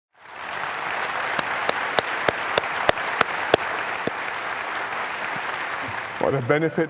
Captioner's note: applause